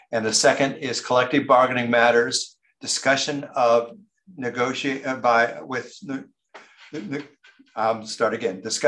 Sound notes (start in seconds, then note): 5.6 stumbles over words